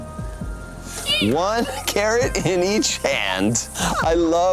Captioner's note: panda squeaks